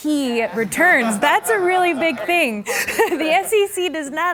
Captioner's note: laughing